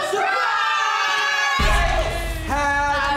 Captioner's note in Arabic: صراخ